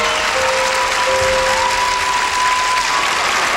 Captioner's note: applause